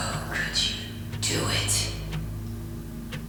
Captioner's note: voices sounding distorted, menacing